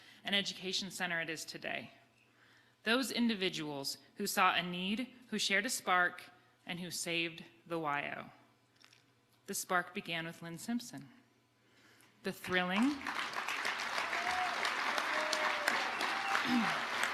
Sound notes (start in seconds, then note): 12.7 audience applauding